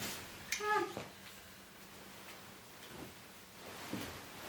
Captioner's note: exclaims